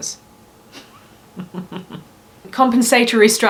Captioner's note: giggles